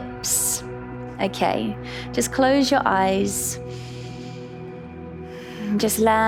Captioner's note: inhales